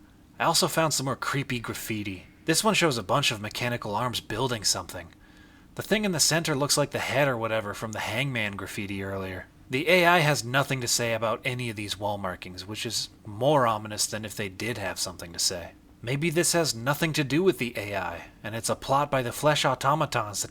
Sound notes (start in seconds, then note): none